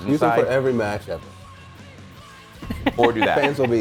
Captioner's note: laugh